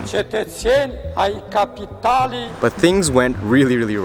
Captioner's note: foreign language